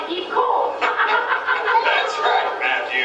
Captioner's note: laughs